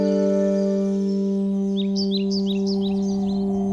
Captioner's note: birds chirp